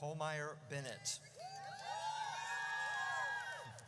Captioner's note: audience cheers